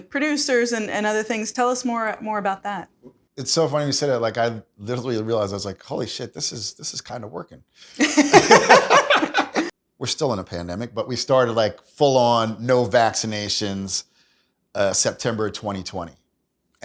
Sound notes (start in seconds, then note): 8.0 laughs